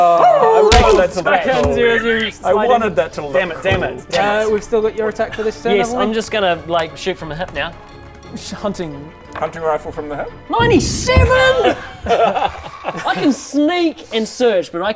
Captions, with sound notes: *Awooooo...boosch* - *boof* back hands you as you slide in - Aww I wanted that to look cool I wanted that to look cool Dammit! We've still got your attack for this turn haven't we? Yes, I'm just gonna like shoot from the hip now hunting hunting rifle from the hip? 97?! heeheehee I can sneak and search